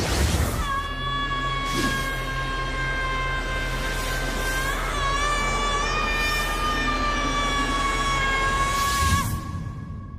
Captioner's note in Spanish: gritos